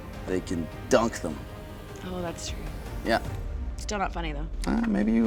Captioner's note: none